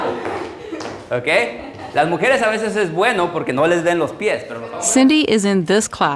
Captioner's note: laughter intensifies; speaking in foreign language